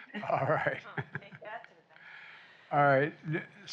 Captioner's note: laughs; laughter